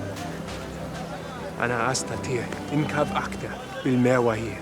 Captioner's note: Hebrew spoken audio